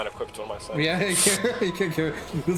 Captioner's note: laughing